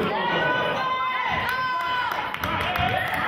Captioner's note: yelling